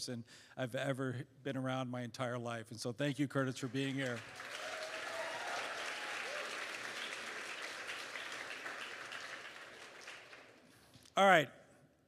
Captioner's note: applause